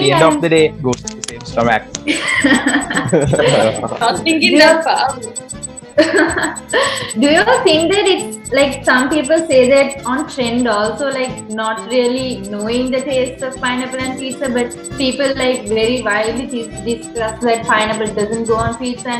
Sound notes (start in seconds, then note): 2.0 laughs